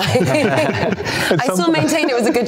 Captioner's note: all laughing